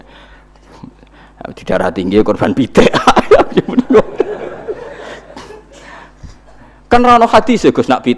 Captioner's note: laughs